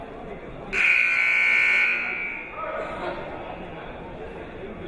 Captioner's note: buzzer blares